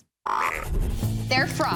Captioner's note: ribbit